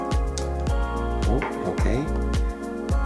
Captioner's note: snap and click; snap and click